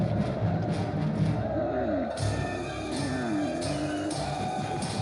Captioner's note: camel groans